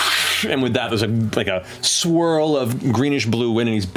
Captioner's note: blows